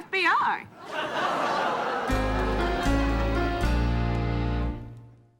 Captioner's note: audience laughing